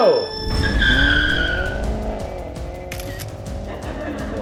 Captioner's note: tires screech; camera snaps